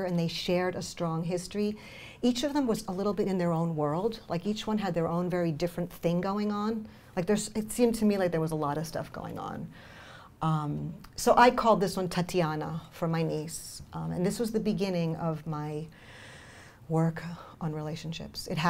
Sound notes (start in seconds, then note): none